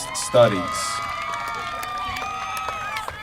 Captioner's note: applause